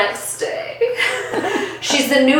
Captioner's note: both laugh